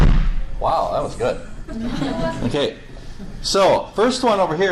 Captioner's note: loud explosion bangs; class chuckles